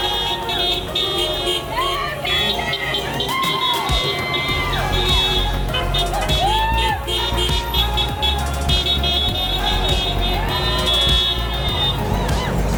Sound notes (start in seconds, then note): 3.8 crowd cheering; 8.3 horns honking